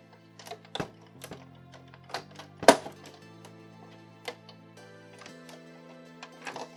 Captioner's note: painful case creaking sounds